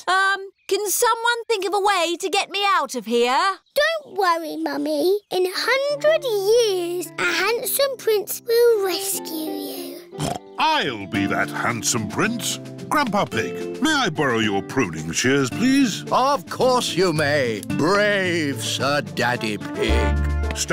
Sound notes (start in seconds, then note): 10.1 snorts